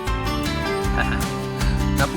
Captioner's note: laughs